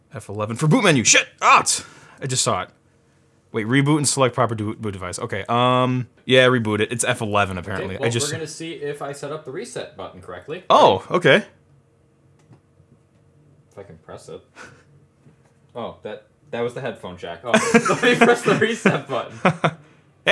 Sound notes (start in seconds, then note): 14.6 slight laughing; 17.5 laughs loudly